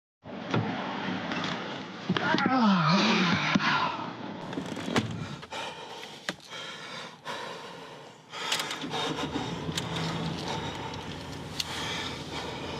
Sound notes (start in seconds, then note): 2.4 Scott groans; 5.0 Scott panting